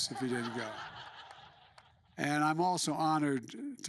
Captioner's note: laughter